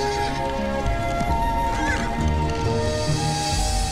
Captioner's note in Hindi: none